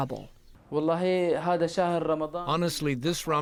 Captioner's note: through translator